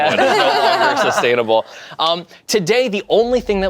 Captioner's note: group laughs